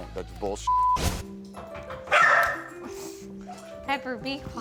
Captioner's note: knocking, barking